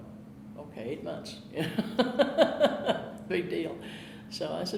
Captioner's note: laughing